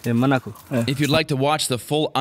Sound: hunter speaking in foreign language

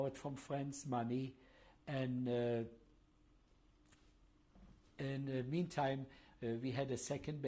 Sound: pauses for 3 seconds

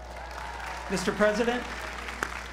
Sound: applause

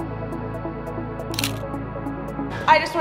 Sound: shutter snaps

